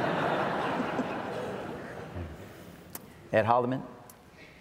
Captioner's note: audience laughs